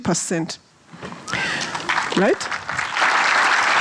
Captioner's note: audience applause